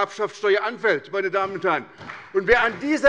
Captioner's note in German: Beifall bei der SPD